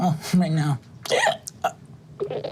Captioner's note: hiccups